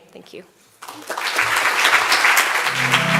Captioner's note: applause